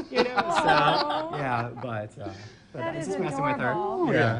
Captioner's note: laughing